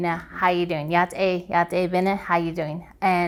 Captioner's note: speaking foreign language